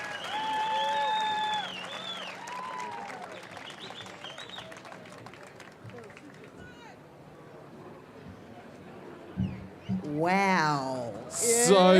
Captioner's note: cheering and applause